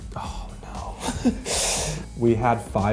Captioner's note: laughs